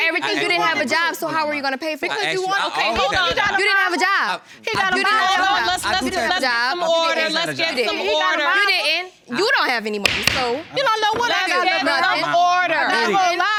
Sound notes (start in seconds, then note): 2.0 all arguing; 4.6 arguing; 10.0 banging gavel; 10.6 all arguing